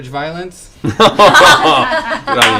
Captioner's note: laughter